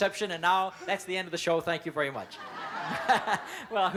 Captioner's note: laughs